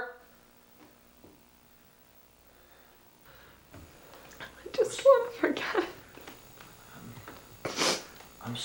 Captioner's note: sobs